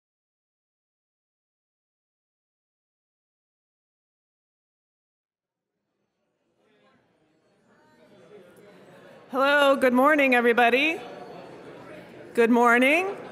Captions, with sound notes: (audience chattering) - Hello, good morning everybody, good morning.